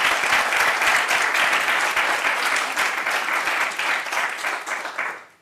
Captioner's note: applause